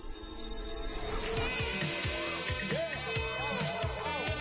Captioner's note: party music continues; crowd cheering